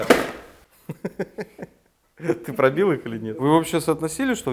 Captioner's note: giggles